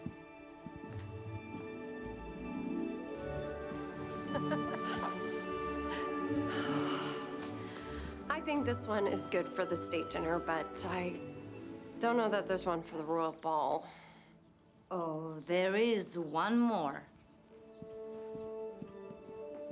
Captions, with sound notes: [laughs] I think this one is good for the state dinner, but I don't know that there's one for the royal ball. Oh, there is one more.